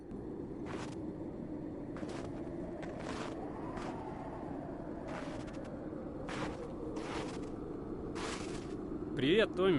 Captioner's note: sound of steps on the snow